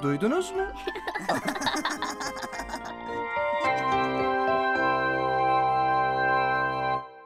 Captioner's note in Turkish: Lokum, Can ve Defne gülüyorlar